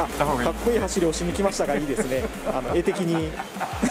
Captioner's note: laughs